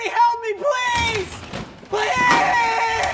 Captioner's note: door opens and closes